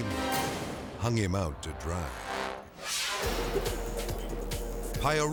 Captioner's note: screen whooshes